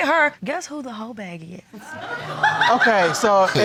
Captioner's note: audience laughs